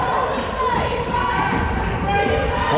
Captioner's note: crowd chanting defense